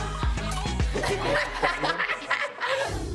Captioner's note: all laughing